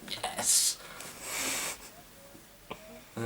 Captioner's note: Arnold chuckles